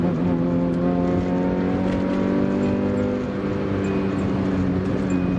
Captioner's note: angry JDM engine noises